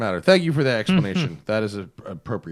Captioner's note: laughter